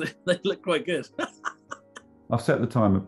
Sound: laughing

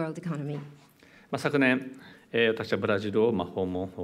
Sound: speaking japanese

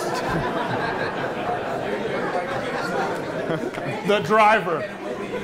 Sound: attendees laughing

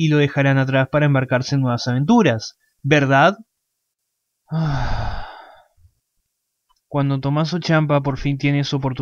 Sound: sighs

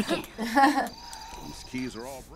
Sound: laugh

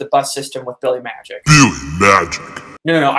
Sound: deep Voiceover

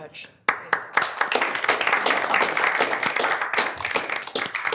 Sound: board applauds

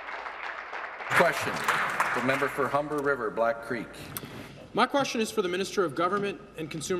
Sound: applause

